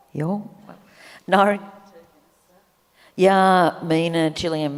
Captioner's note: speaks native language